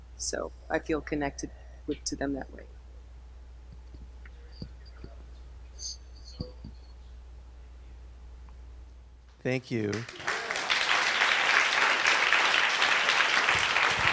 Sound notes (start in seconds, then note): 4.8 someone speaking off mic; 9.8 audience applauding